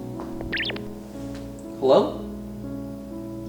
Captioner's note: buzz noise